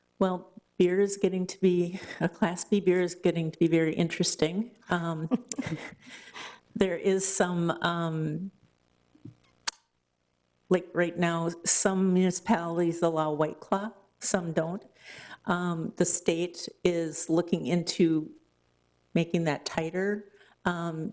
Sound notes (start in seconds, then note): 5.1 chuckles